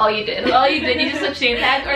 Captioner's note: laughing